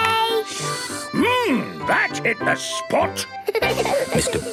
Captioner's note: slurping; giggling